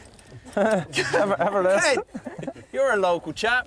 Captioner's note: chuckles; speaking Gaelic